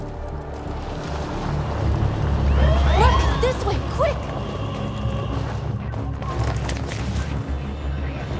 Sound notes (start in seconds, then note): 2.3 siren blares